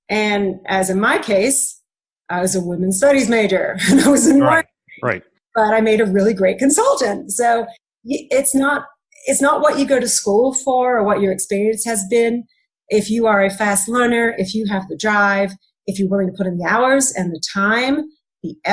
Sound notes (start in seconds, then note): 4.0 chuckling